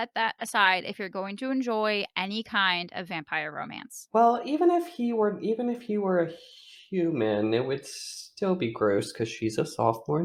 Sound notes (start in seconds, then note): none